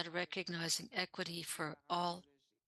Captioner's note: speaking french